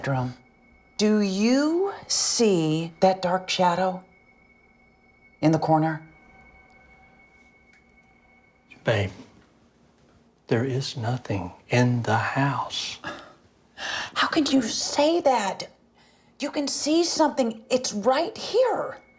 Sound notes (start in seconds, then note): 13.0 sighs